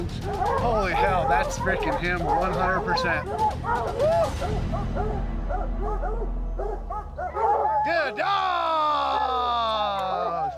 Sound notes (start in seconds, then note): 3.8 dogs barking